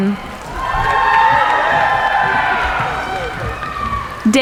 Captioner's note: cheering